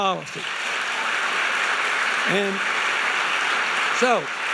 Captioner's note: audience applauding